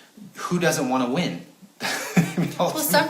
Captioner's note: chuckling